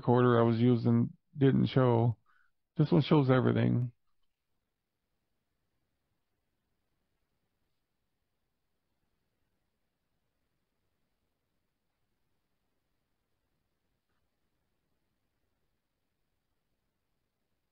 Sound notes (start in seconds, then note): 4.0 silence